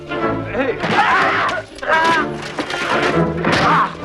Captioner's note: Hundra yells; Assaulter groans